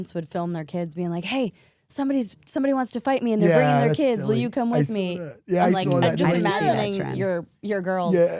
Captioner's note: none